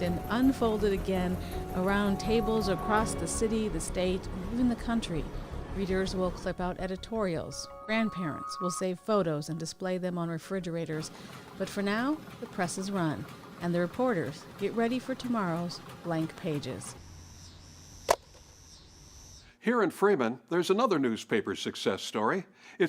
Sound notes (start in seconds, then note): 17.8 loud thud